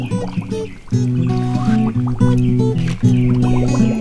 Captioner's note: bubbling sound